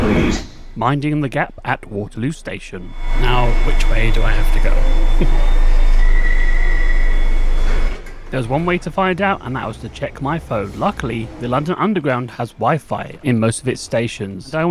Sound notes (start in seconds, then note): 5.1 chuckles